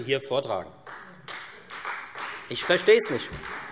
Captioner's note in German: Beifall Freie Demokraten